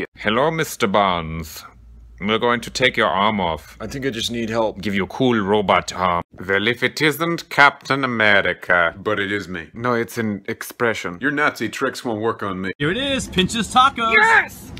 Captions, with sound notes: [German accent] Hello Mr. Barnes. We're going to take your arm off. [American accent] I think I just need help. [German accent] Give you cool robot arm. [German accent] Well if it isn't Captain America. [American accent] But it is me. [German accent] No, it's an expression. [American accent] Your Nazi tricks won't work on me. Here it is, Pinches Tacos! - Yes!